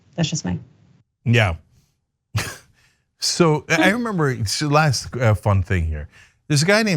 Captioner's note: laugh